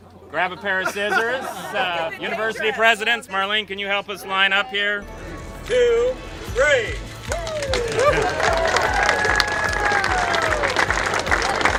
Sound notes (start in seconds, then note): 6.8 congregation applaud